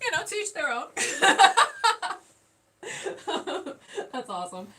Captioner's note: laughing